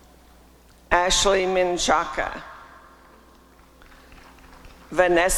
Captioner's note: applause and cheering